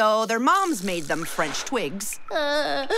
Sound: crying

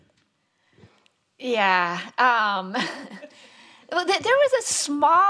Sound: all laughing

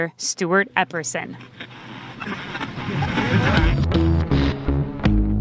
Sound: radio click, dreamy music ends, snaps back to reality/present-day reporting

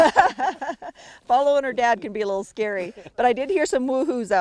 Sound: laughter

